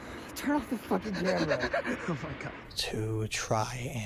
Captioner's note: chuckles